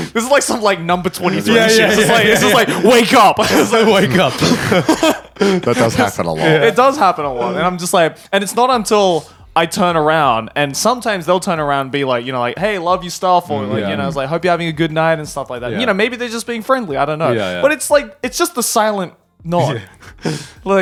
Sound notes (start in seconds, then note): 0.0 all laughing; 3.4 chuckles